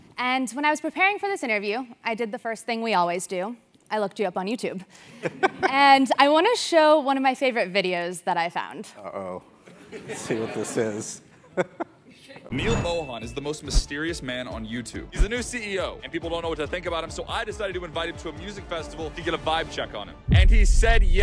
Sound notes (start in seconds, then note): 5.2 laugh; 11.4 laugh